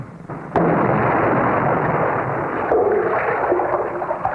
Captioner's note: cork pops; champagne glugging